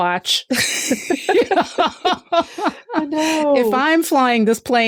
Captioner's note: laughter